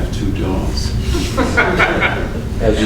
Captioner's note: laughter